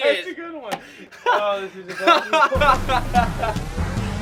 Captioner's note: laughs; upbeat music